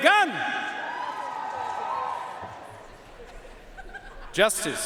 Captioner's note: audience cheering and applauding